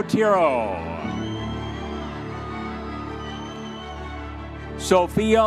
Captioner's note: audience members cheering